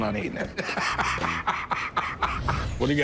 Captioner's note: laughs